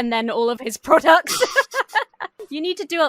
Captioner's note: laughs